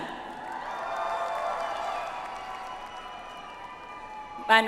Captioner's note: audience applauds